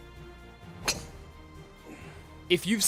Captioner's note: whack